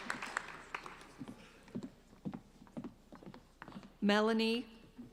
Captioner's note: applauding